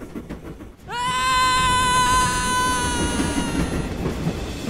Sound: screams

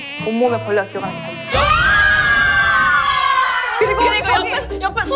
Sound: screaming

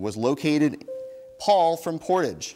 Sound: bell dings

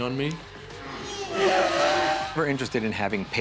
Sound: grunts

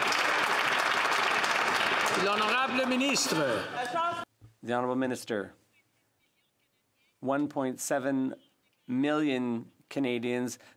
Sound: some Applause

